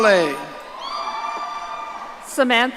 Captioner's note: audience cheering